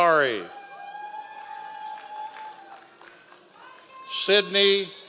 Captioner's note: members of the audience cheering